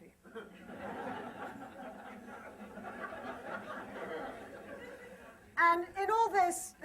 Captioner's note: laughter